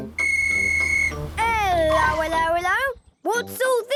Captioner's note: whistle blowing